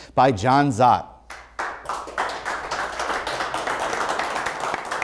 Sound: applause

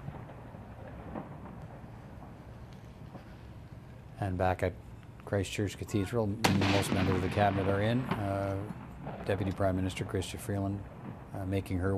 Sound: artillery Salute

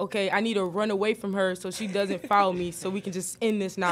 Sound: laughs

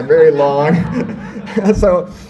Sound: audience laughs

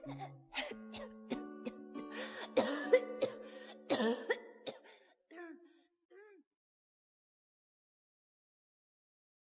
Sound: coughs

